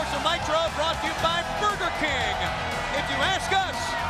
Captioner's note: crowd cheering